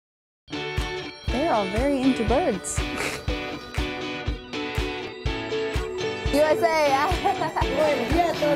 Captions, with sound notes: They are all very into birds! USA! [LAUGHING]